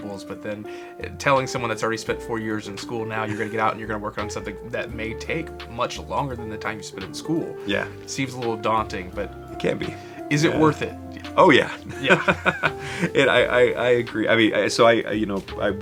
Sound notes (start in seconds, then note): 11.7 person laughing